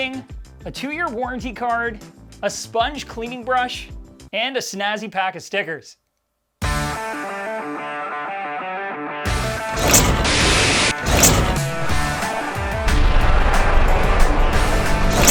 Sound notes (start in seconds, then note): 6.6 upbeat rock music; 9.7 animated whooshing